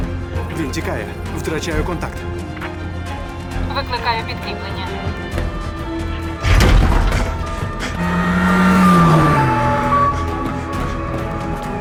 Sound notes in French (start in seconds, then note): 4.2 sirènes au loin; 7.6 sirènes; 7.9 vrombissement de moteur